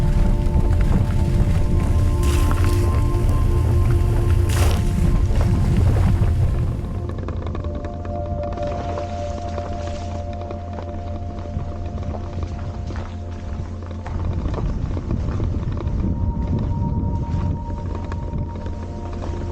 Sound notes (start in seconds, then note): 6.3 sound of driving on a wet gravel road